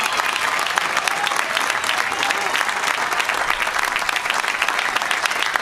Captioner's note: applause